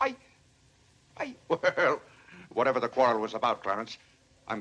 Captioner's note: chuckles